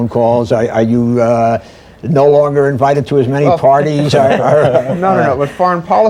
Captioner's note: laughter